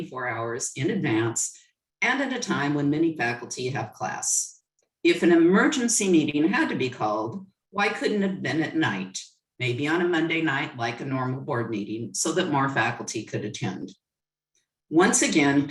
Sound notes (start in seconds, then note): none